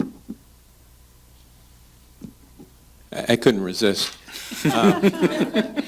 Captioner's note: laughter